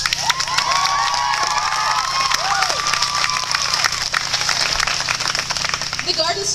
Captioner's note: clapping